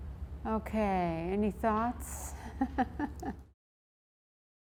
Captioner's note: laughs